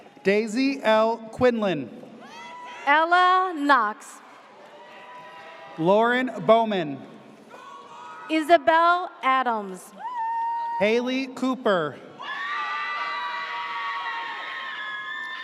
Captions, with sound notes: - Daisy L. Quinlan. (audience cheers) - Ella Knox. (audience cheers) - Lauren Bowman. - Isabel Adams. (audience cheers) - Haley Cooper. (audience cheers)